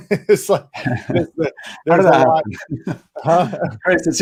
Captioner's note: laughing